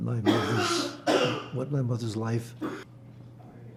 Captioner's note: coughing